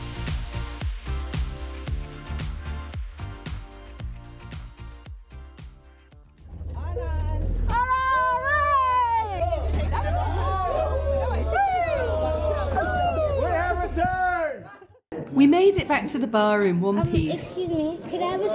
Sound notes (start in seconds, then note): 12.9 cheering